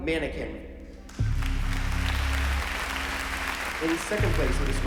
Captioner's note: applause